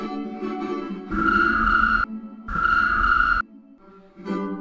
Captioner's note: chirp! chirp!